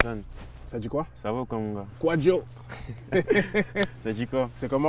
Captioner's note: laughs